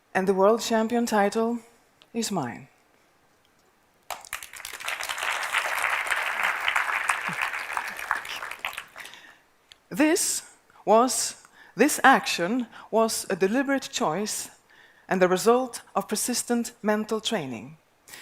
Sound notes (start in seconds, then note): 4.1 applause